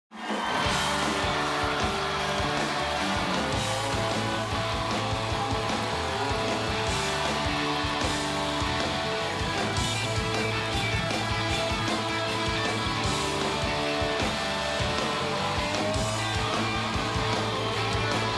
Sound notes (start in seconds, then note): 4.3 cheers and applause